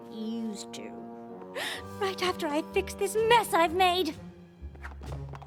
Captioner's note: gasp